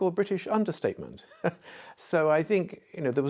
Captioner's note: laughter